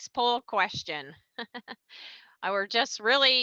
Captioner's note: laughs